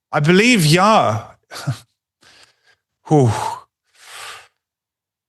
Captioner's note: sighs